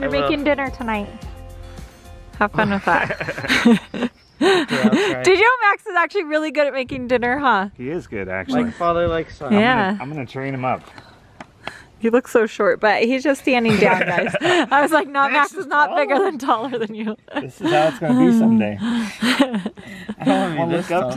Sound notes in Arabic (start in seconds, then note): 2.5 الكل يضحك